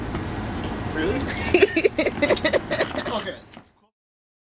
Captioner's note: laughter